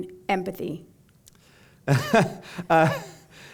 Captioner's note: chuckle